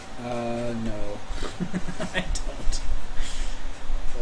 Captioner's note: chuckling